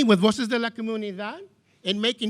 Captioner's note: speaking in foreign language